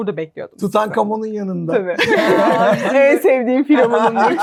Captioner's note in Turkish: kahkaha